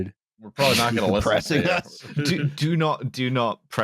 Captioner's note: laughs